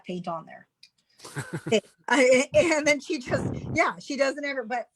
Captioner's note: chuckles